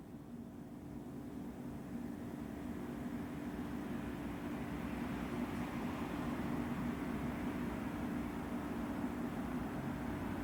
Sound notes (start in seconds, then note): 7.5 faraway street traffic sounds